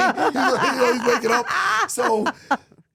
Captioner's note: yelps